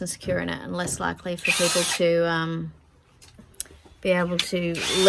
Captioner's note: drill runs on and off in background